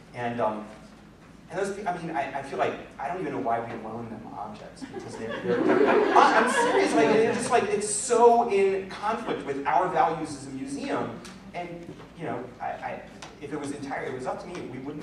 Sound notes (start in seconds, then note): 4.8 laughter